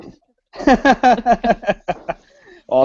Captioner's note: both Laugh